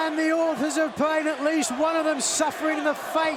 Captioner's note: fans chanting